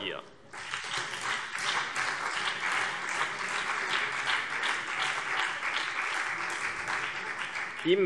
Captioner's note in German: Beifall CDU und BÜNDNIS 90/DIE GRÜNEN